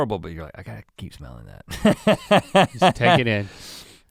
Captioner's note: laughs